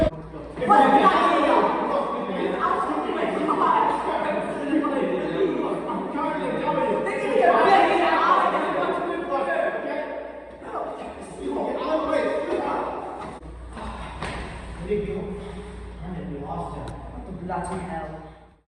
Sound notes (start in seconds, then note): 0.4 arguing Noises